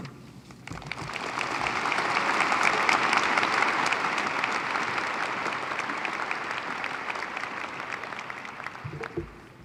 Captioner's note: applause